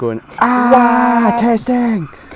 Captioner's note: both screaming